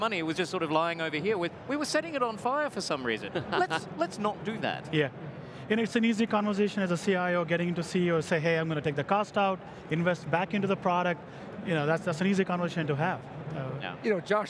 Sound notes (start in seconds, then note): 3.3 laughs